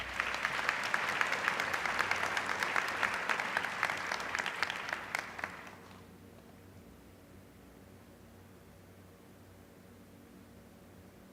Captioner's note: applause